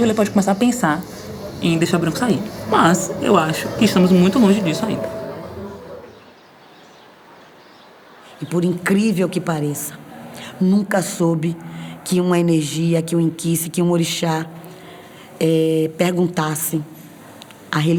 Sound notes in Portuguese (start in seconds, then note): 6.4 pássaros chilreando